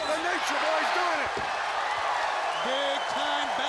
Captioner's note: audience cheering